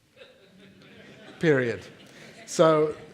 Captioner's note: audience laughing